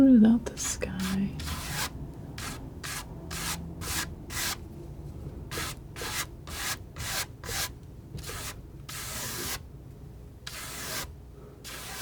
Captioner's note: scratching